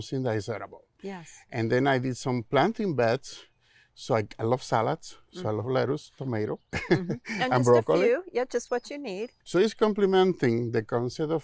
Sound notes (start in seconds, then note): 6.7 laughing